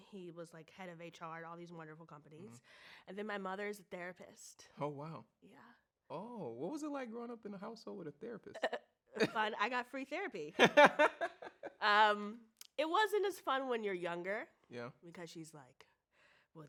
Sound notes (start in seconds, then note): 10.6 chuckles; 10.6 laughs